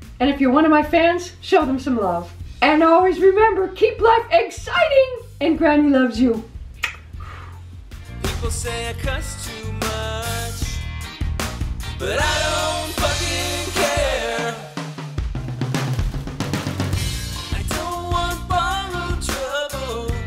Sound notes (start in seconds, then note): 6.7 kiss sound; 14.5 drums drums drums drums